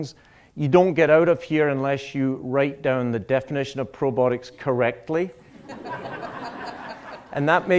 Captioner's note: laughter